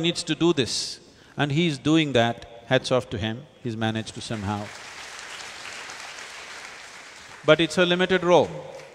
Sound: applause

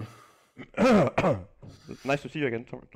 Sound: clears throat

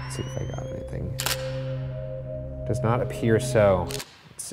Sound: tense atmospheric music; camera shutter clicks; camera shutter clicks

